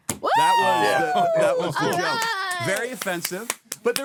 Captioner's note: clapping